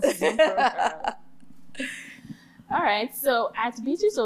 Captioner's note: laughter